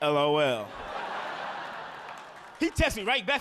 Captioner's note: audience laughing